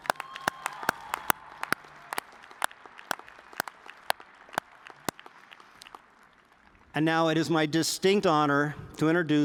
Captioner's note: cheers and applause